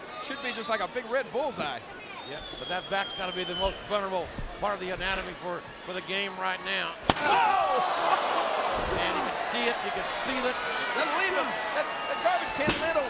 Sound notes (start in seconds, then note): 7.1 fans groaning; 7.2 trash lid whacking